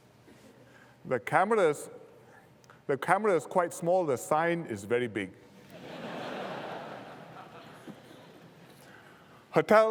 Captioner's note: laughter